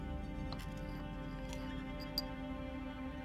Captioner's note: crack and clink